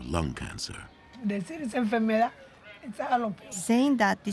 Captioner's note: speaking Spanish